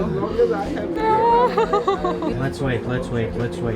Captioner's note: panicking noices